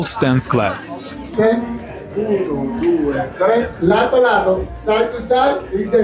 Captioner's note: Spanish